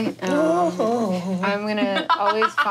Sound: vocalizing

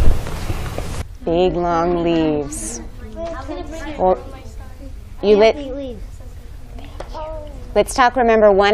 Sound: student chatter

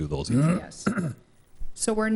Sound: member clearing throat

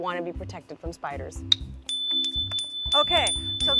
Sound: chime dinging

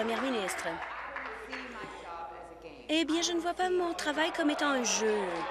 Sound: applause

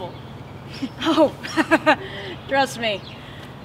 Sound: laughs sarcastically

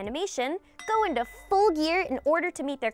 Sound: bell clanging

